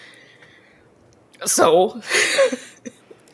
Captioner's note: laughs